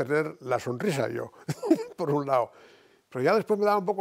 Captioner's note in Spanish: Ríe